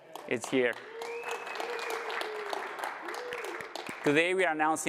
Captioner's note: applause